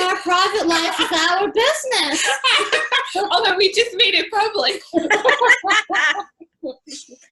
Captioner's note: laughter